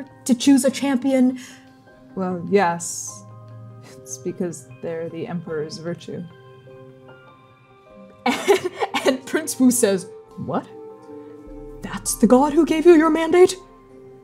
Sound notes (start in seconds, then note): 8.3 laughing